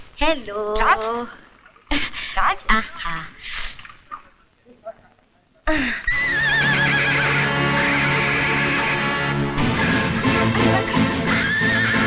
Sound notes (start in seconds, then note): 6.0 horse neighing